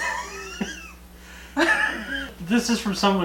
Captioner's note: laughing